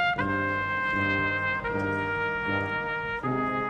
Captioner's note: none